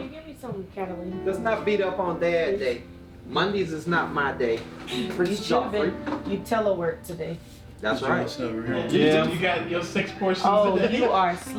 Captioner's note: family talking at table